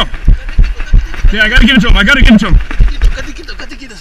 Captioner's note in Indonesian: suara orang berlari